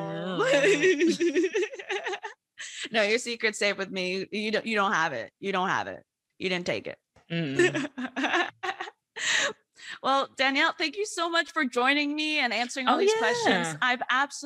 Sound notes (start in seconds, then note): 0.2 laughs; 7.4 laughs